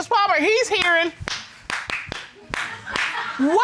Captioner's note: clapping